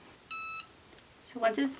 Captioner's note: machine beeps